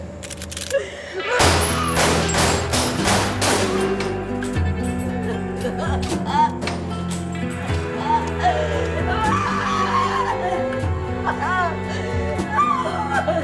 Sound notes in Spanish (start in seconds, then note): 4.4 Gritos